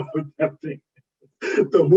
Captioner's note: laughs